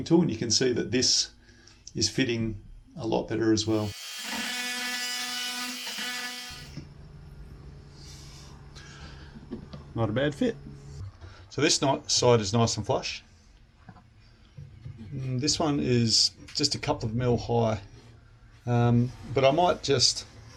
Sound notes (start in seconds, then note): 3.7 grinder buzzing